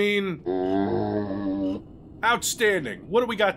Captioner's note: zombie sound